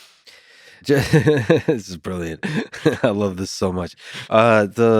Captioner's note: laughs